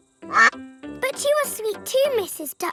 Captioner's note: quacks